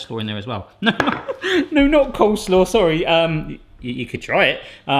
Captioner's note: laughing